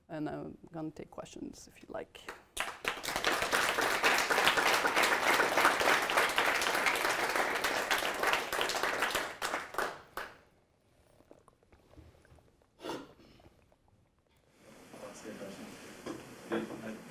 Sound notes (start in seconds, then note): 2.2 applause